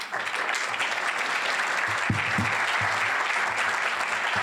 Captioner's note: applause